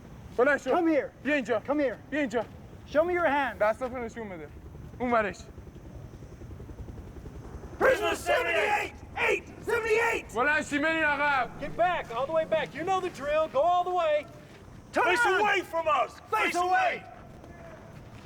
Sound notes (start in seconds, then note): 5.3 speaking foreign language